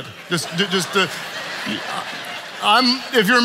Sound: congregation laughing

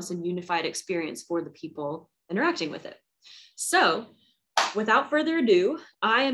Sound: claps

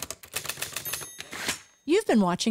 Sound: typing; typewriter ding

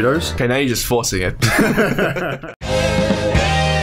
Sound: collective laughter

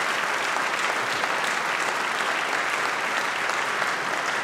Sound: applause

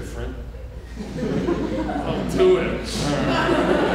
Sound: audience laughing

